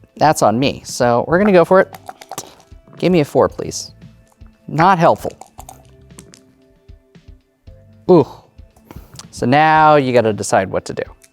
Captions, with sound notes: that's on me. So, we're gonna go for it. (dice rattling) Give me a 4, please. (dice rolling) Not helpful. (dice rattling) (dice rolling) Oof. So, now you gotta decide what to do.